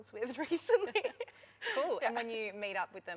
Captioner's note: laughter